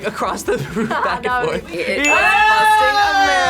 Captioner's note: laughs